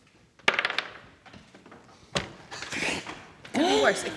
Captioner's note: clatter